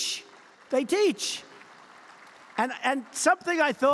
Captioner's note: applause